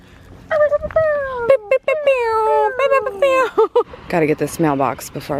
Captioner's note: making disco noises